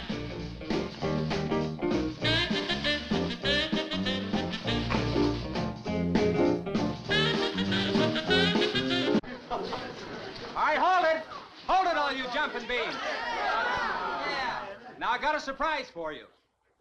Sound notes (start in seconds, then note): 12.8 crowd groaning